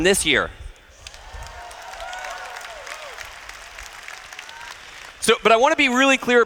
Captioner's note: applause